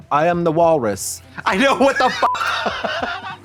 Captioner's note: beep